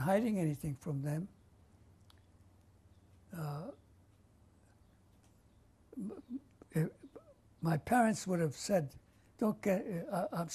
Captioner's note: pauses for 6 seconds